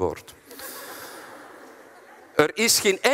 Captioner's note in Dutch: het publiek lacht